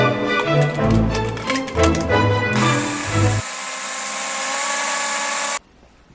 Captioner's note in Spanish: batidora